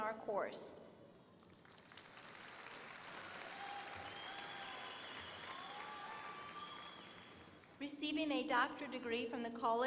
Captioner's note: applause